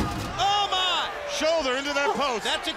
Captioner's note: crowd chatter